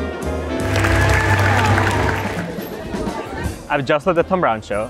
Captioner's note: audience applause